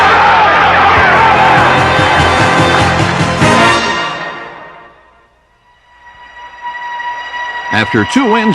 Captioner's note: crowd cheering